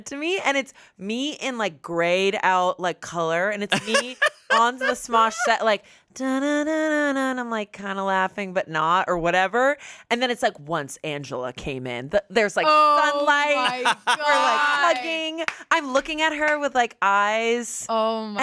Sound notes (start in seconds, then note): 6.6 vocalizes